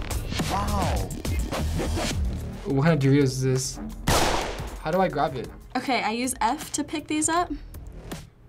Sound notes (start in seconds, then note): 4.0 gunshot